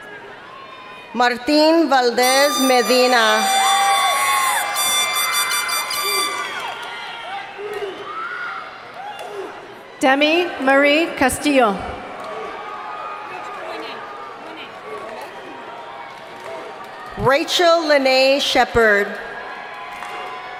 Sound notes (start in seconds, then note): 2.2 horn honking; 8.0 crowd members chanting; 8.0 crowd members clapping